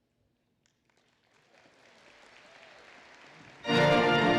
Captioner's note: applause